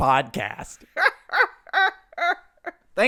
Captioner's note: Leia cackles